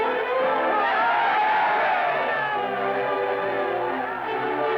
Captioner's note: crowd cheering